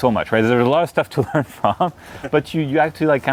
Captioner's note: laughs